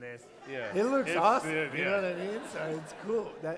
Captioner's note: laughter